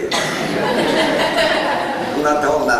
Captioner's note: laughter